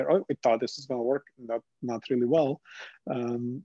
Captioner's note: none